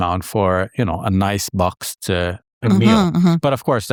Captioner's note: hums